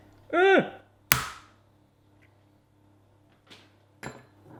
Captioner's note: cracking